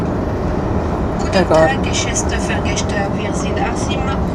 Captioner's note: German announcement starts